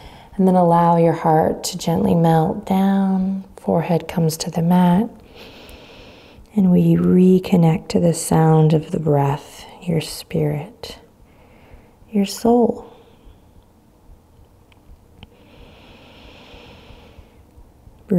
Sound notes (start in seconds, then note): 5.2 inhaling deeply; 15.3 inhaling deeply